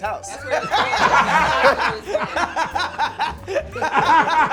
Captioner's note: laughter